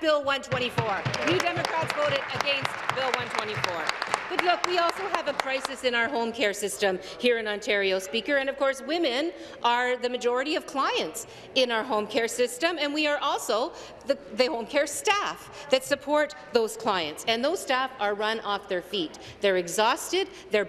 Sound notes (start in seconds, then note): 4.7 applause